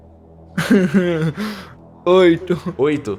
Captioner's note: laughter